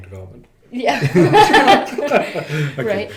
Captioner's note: laughing